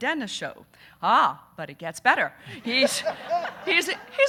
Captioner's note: audience laughing